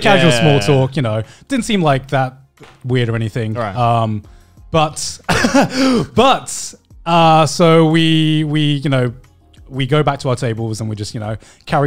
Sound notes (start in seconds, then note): 5.3 laughs